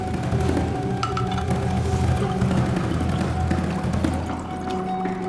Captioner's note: bottle pouring